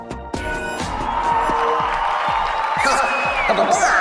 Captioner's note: applause